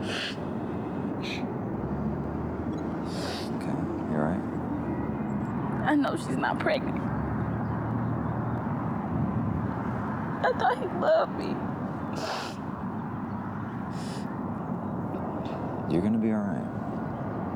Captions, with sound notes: You OK? Are you all right? I know she's not pregnant. I thought he loved me. [SOBS] You're gonna be all right.